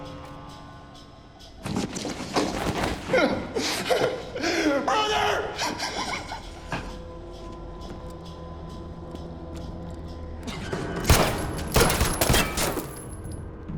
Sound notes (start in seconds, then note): 3.1 sobbing; 9.2 gunshots